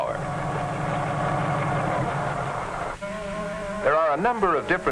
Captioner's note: helicopter blades whirring